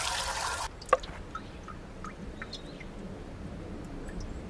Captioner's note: egg thudding